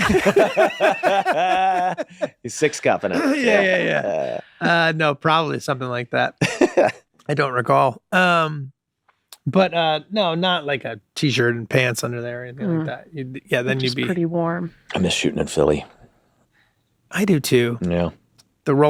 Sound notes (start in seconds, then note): 0.0 all laughing; 6.4 Glenn laughs